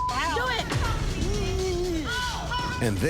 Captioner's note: mocking